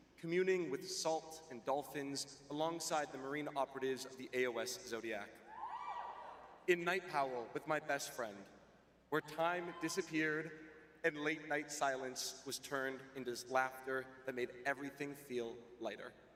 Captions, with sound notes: communing with salt and dolphins alongside the marine operatives of the AOS Zodiac. [cheering] In Knight Powell with my best friend, where time disappeared and late-night silence was turned into laughter that made everything feel lighter.